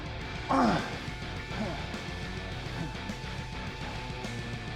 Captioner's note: Sheamus grunts; upbeat music continues